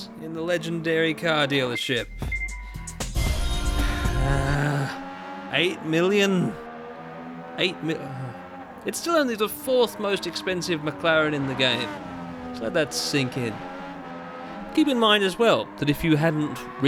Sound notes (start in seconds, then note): 0.0 with reverb and chorus effects; 3.7 sighing groan; 7.9 groaning sigh